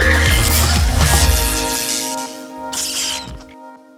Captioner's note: electricity static